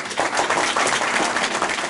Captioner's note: applause